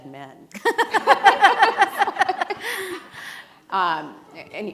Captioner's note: laughing